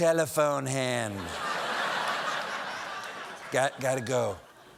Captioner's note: laughter